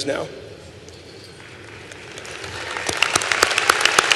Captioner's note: applause